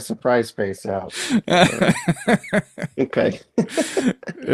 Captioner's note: laughing